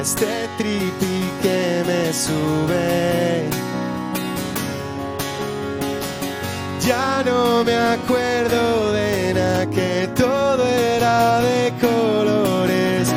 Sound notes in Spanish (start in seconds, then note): none